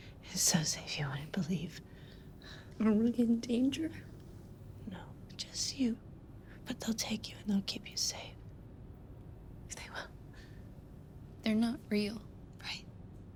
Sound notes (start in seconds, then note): none